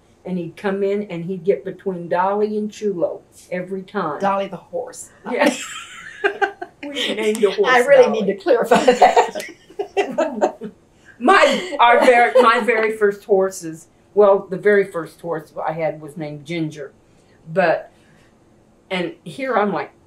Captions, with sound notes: and he’d come in and he’d get between Dolly and Chulo every time. Dolly the horse. (Laughs) Yes, we named a horse Dolly. I really need to clarify that. (Laughter) The very first horse I had was named Ginger. Here, I’m like